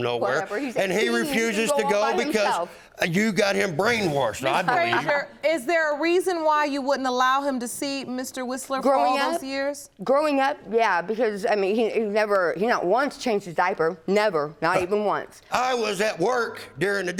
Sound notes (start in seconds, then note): 4.4 laughing